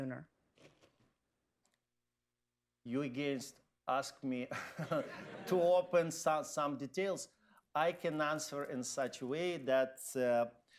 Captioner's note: laughter